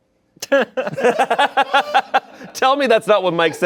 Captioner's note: group laughing